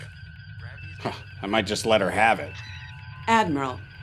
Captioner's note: laughs